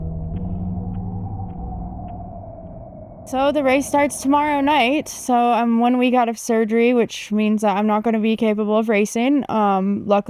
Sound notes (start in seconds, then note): 0.0 wind howling